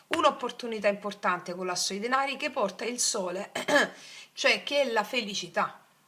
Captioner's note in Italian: schiarire la voce